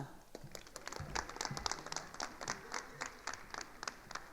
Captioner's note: attendees applauding